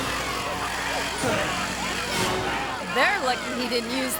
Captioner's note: engine roaring